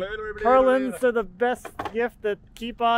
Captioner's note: jumbling words